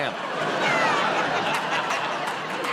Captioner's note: laughter